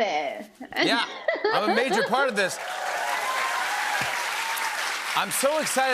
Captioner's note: cheers and applause